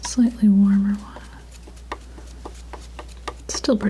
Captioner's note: tapping